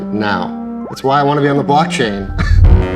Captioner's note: laughs